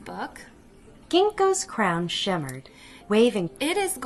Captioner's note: audio from book playing